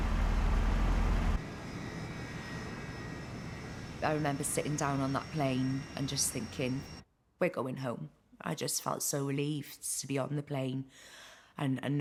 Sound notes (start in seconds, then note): 2.4 plane engines whirring